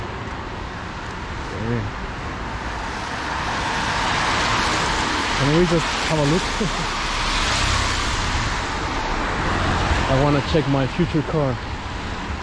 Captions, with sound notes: (car sounds) Could we just have a look? I want to check my future car lol